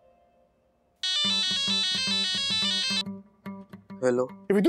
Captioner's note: phone ringing